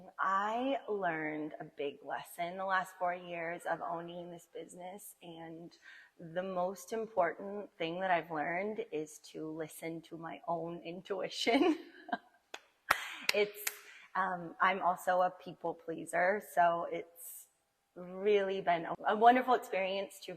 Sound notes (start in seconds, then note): 11.7 laughing; 12.9 clapping